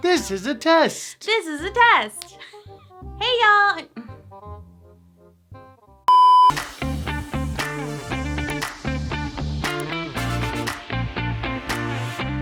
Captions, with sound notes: - This is a test. - This is a test. Hey, y'all. (beeps) (upbeat music)